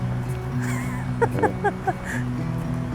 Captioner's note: laughs